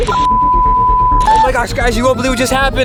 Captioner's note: beeping